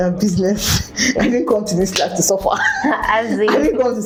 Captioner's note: laughs